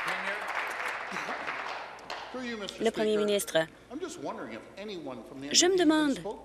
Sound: applause

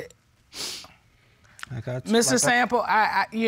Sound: sighs; sniffles

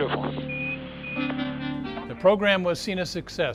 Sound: machine beeping

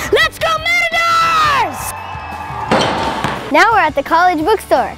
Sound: cheering

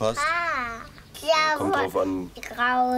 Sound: kids babble

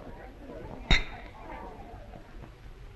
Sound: clinking

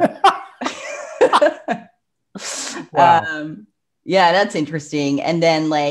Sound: laughs

